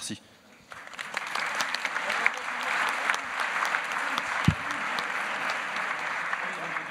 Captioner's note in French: Applaudissements